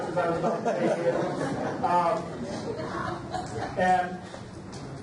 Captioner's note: audience laughs